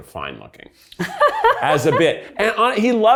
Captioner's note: laughs